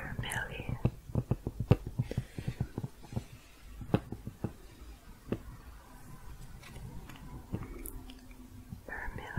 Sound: tapping continues

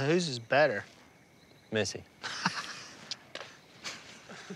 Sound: laughter; spits

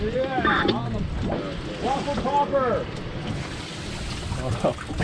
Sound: radio noise in background

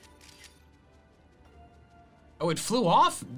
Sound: photo snapping

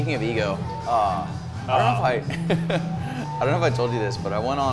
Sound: laughs

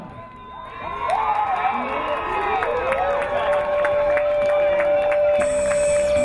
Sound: crowd cheering; crowd applauding

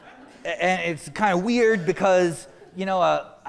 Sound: laughter

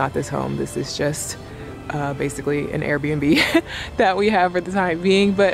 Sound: chuckles

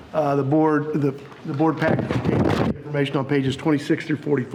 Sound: none

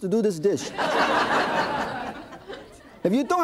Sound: audience laughing

